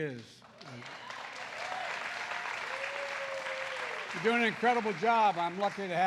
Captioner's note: applause